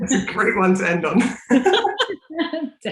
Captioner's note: laughing